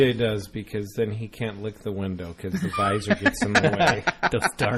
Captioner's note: laugh